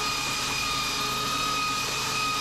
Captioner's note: drill whirring